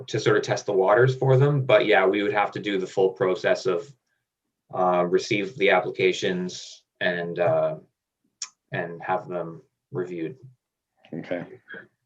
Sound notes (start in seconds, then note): none